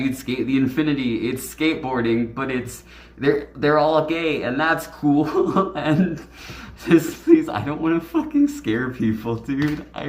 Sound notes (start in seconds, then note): 5.2 laughs